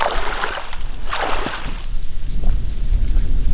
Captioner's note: water flowing